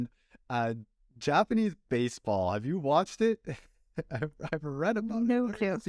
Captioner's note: laughter